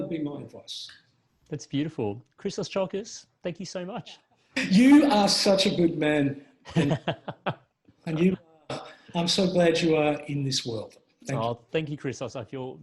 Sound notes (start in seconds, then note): 6.7 laughs